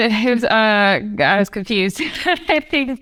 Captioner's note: laughs